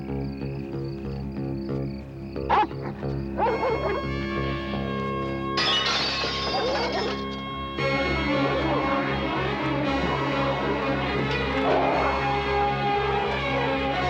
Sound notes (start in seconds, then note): 2.4 dog barking; 5.5 glass breaking